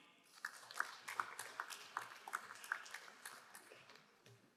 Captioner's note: crowd applauding